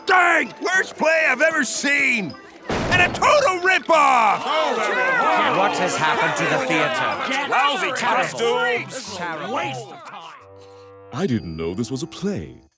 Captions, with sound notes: Worst play I've ever seen. And a total rip-off! [complaining] What has happened to the theater? Lousy costumes. This was a waste of time! I didn't know this was a play.